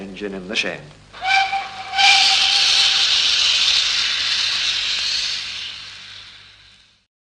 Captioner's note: train whistle, wheeshing sounds